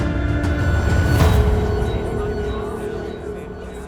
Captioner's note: overlapping chatter